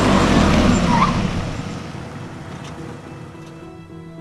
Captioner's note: car screeches